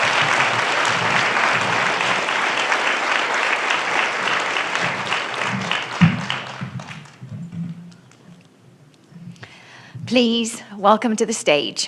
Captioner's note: applause